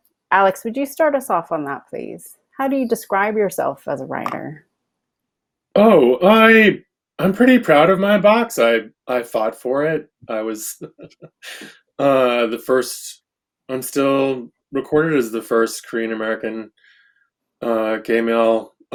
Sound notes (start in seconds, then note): 10.2 laughs